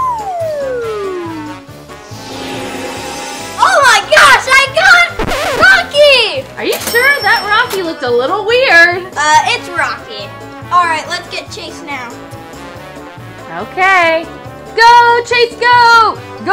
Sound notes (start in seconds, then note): 0.0 swing flute; 2.2 pitchfork tuning